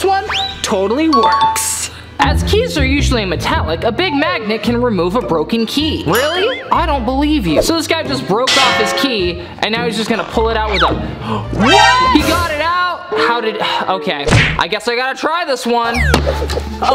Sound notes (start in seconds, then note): 11.1 gasps